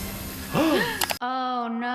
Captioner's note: gasp